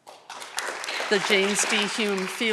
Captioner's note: audience clapping